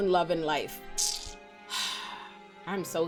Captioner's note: sighs